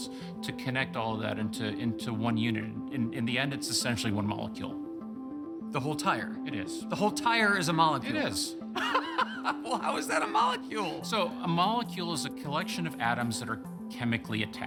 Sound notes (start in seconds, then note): 8.7 laughing